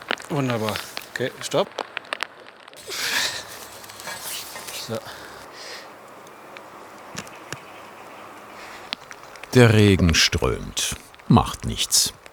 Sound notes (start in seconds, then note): 2.7 moan